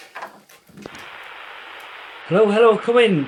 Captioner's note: radio static buzzing